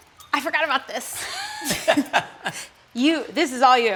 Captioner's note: both laugh